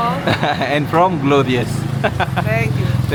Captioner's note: laugh